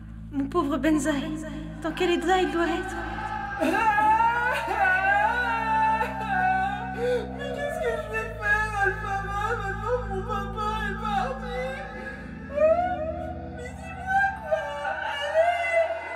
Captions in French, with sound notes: Mon pauvre Benzaie, dans quel état il doit être ? [pleurs] Mais qu'est-ce que je vais faire, Alpha Man, maintenant que mon papa est parti ? Hein ? Mais dis-moi quoi ! Allez !